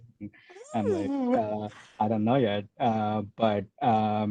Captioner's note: makes nervous noise